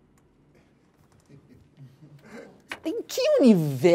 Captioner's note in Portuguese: risos